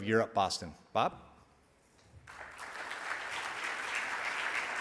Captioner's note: audience applauds